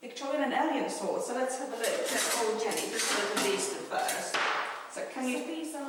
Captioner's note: swords clanking